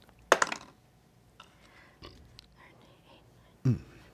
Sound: dice clatter

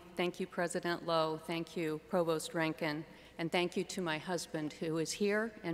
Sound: none

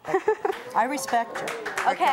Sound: laughs

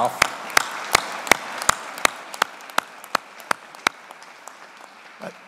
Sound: audience applauding

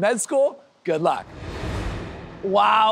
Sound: air whooshes

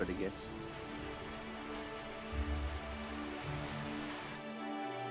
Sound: ocean breeze

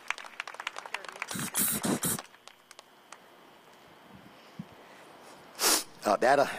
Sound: applause

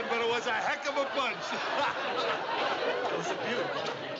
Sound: continues laughing

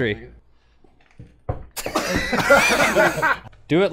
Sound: laughter

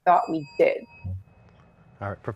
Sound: bell dings

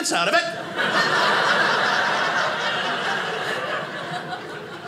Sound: audience laughing

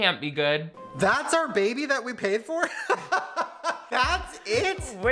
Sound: laughs

